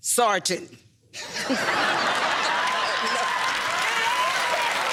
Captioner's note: laughter